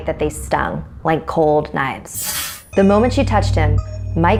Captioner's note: sharp noise